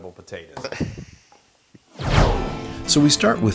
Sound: laugh

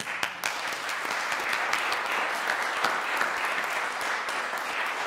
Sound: applause

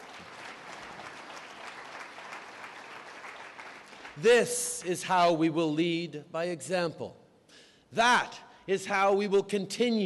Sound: applause

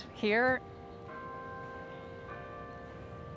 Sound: bells chiming

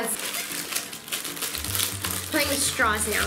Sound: plastic crinkling

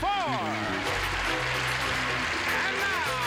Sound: applause

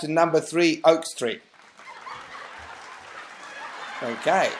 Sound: laughter and Clapping

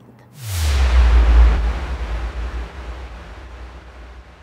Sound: electric sound

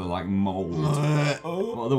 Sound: disgusted noise

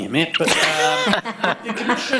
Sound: laughing

